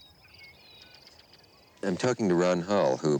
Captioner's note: birds chirping